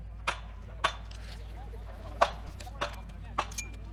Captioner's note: metal clanks